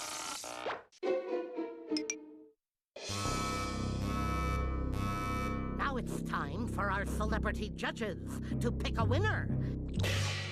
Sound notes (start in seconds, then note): 3.0 beeping